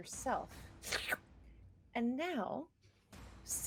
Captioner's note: person slurping